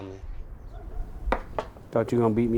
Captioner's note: knocking